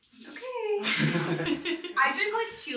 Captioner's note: everyone laughs